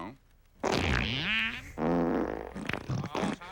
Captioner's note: farting sounds